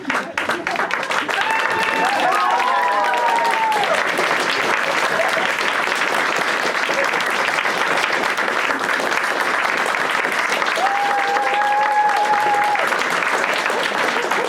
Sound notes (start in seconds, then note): 0.0 audience claps; 0.0 audience claps and cheers